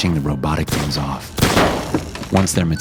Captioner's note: gun bangs